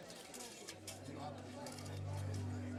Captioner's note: reporters talking, cameras flashing